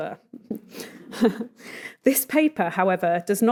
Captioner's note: everyone chuckling